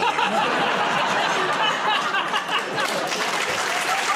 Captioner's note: laughter; applause